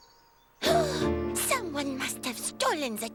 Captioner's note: gasps